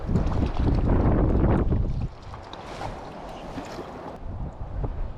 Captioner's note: water splashing